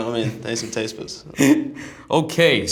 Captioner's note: laughter